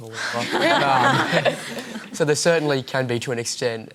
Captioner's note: laughter